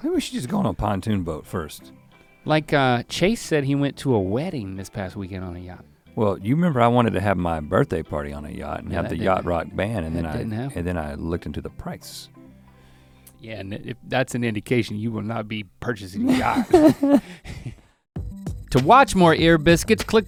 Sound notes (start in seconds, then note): 16.1 Rhett chuckles